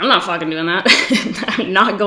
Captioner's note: laughs